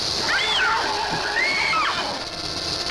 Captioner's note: screaming